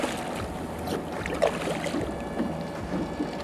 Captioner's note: none